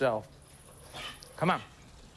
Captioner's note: dog wheezes